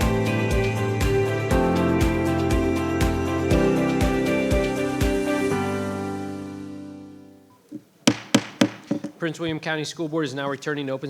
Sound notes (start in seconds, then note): 7.6 gavel thudding